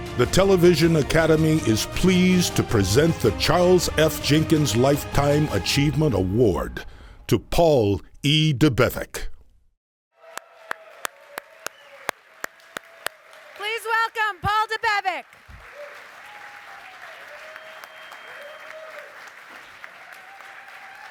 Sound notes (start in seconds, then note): 11.8 applause; 16.6 applause and cheering